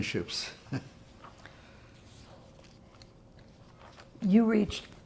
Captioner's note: laughing